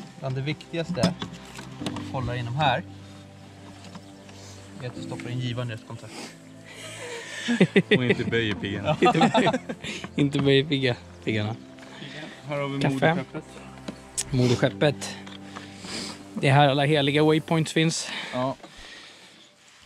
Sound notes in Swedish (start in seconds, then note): 6.6 lauthing